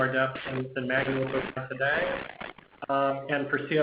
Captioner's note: static on audio